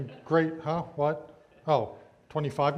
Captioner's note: audience laughs